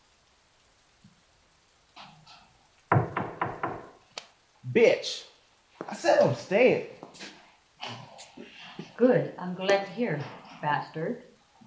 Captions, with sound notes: (Akecheta knocking) - Bitch, I said I'm staying. Oh shit. - Good, I'm glad to hear, bastard.